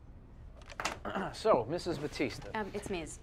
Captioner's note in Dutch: Tommy schraapt zijn keel